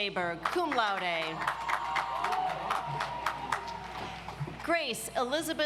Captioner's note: audience applauds